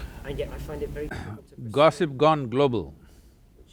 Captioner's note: laughs